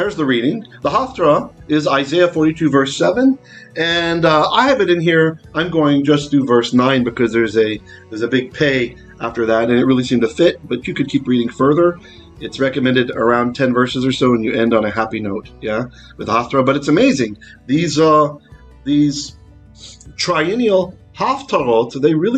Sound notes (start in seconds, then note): 0.2 Hebrew; 8.2 Hebrew; 20.6 Hebrew